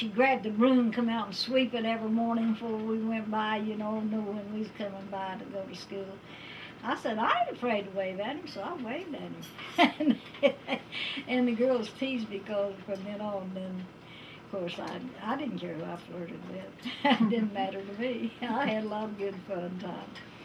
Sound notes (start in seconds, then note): 9.6 laughs